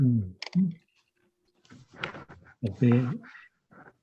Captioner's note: voice muffling